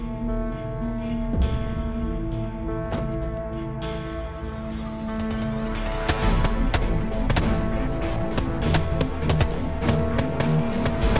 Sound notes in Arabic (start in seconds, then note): 5.0 إطلاق النار; 8.6 إطلاق النار مستمر